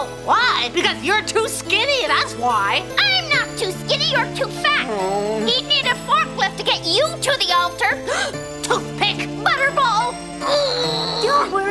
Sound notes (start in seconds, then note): 8.0 gasps